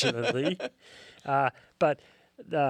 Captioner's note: laughs